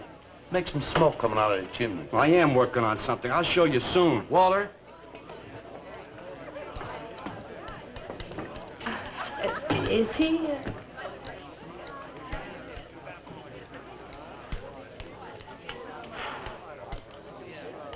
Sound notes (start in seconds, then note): 16.1 blows